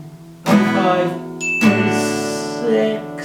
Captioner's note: alarm Sounds